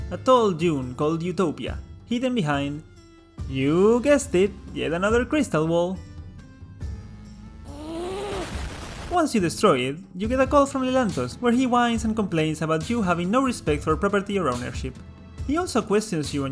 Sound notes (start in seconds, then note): 7.7 grrrrRRRRR